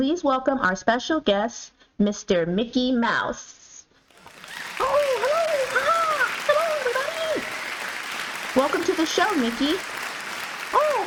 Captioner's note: applause